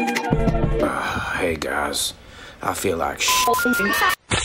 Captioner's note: sigh